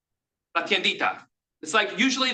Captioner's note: speaks in Spanish